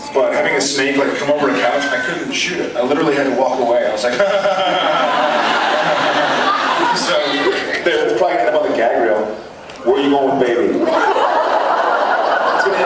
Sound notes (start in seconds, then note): 4.0 laughs; 4.0 nervous laugh; 10.8 laughs